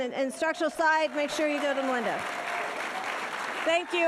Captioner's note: audience applauding